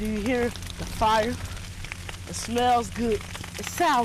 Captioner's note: fire crackling